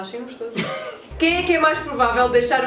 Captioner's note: laughs